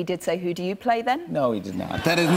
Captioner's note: laughter